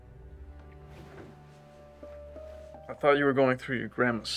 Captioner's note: bed rustles